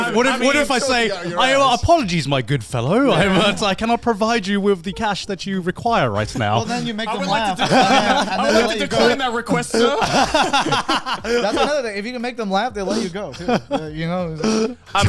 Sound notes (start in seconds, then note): 10.3 laughing